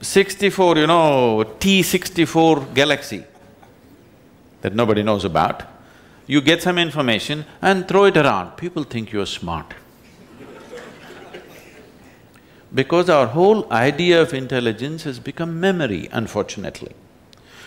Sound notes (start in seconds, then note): 10.2 laughter